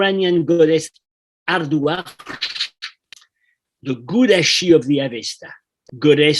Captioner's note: non-english